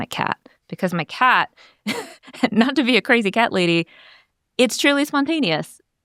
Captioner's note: laughs